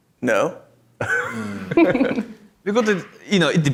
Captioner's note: audience laughs